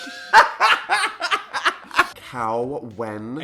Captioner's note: laughs